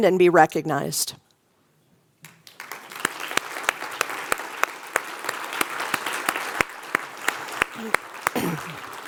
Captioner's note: applause